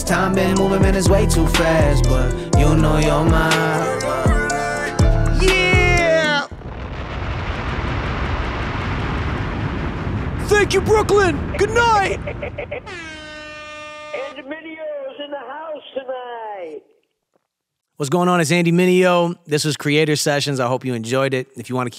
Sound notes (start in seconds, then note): 6.4 bomb exploding; 12.8 air horn